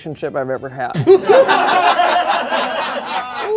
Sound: laughter

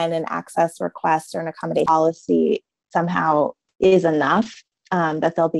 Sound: audio jumps

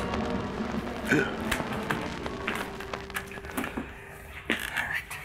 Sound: Mr. Blight burps

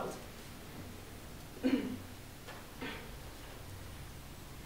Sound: clears throat

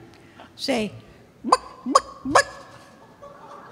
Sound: clucking; audience clucking

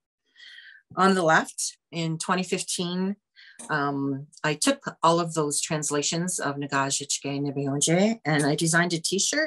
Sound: foreign language 00:18:25

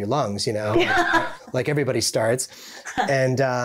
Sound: laughing joyously

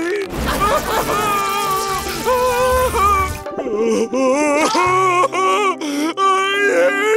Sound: crying

